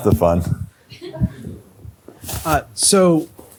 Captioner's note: laughter